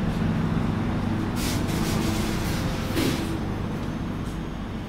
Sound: train air brake released

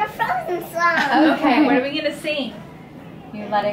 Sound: laughing

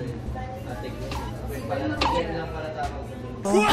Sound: convo in the background

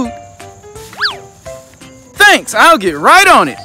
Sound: swish

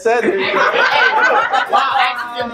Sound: family laughing

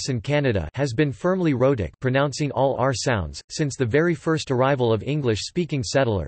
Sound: pronouncing all r sounds

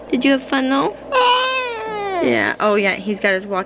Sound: fusses

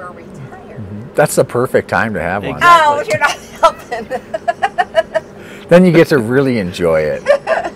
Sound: laughter

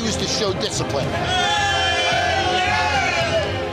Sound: cheers

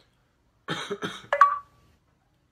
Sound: cough; achievement notification sound

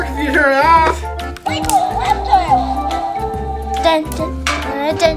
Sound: toy talking

